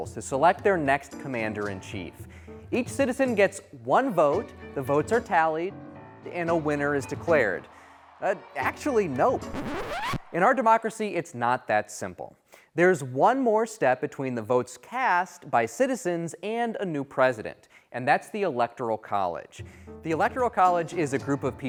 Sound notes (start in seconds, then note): 8.6 vinyl record scratching